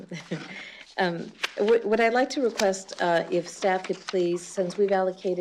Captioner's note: laughs